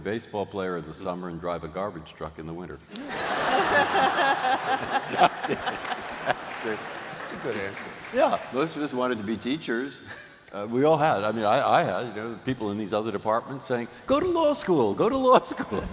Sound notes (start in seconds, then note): 2.9 laughter